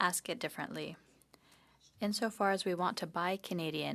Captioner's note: speaking in French